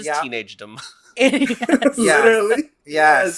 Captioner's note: laughs